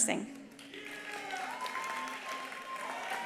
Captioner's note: attendees applauding; attendees cheering